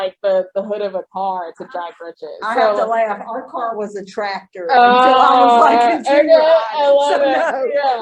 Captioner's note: laughing